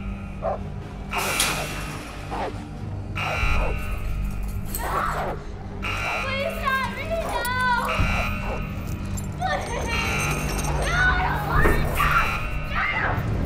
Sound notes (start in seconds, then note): 1.1 gate rattles; 5.9 shouts